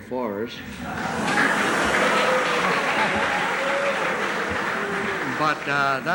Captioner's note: applause